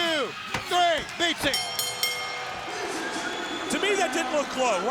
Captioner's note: hand smacking; bell dinging